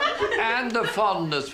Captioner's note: laughter